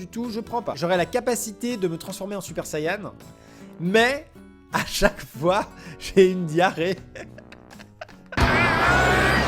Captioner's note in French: rire